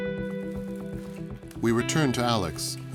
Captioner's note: upbeat music; plastic rustling